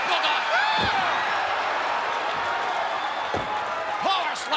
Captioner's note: crowd cheering